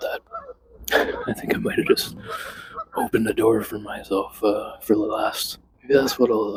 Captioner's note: laughs